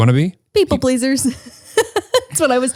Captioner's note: laughs